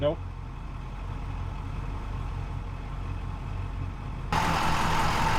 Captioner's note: truck rumbling